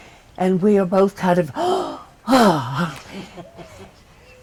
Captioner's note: breathes with exitement